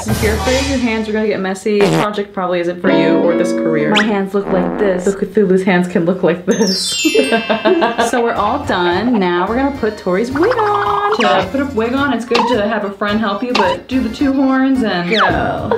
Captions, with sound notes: If your afraid your hands are going to get messy this project probably isn't for you or this career. My hands look like this so Cthulhu's hands can look like this (laughing) So we're all done. Now we are going put Tori's wig on. To put a wig on. It's going to have a front helpie but do the two horns and go.